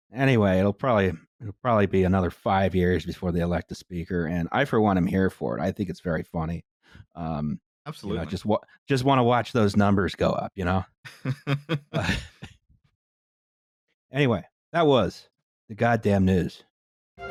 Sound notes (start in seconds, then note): 11.1 laughs